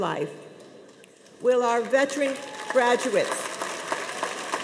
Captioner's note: audience applauding